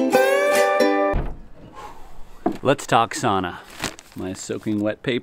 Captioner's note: door opens; exhales; paper crinkles